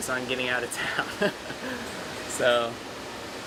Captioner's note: laughing